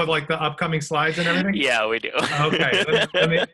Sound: laughing

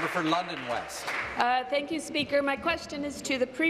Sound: applause

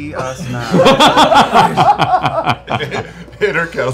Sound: laughter

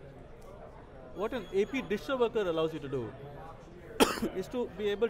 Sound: coughs

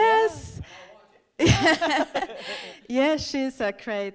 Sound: both laughing

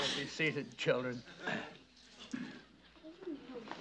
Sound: clears throat

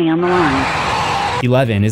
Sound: automated Voice; roar

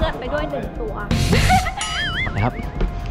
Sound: chuckles

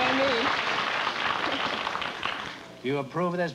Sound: applause

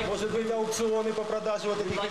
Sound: russian speech

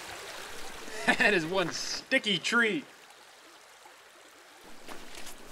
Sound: laughing

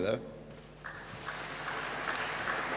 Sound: applause

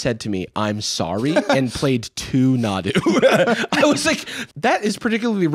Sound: laughs

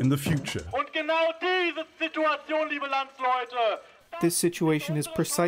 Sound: through translator

